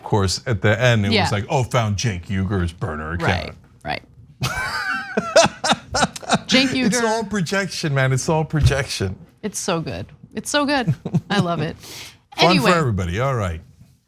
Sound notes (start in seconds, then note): 4.4 laugh